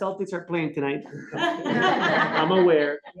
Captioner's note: laughter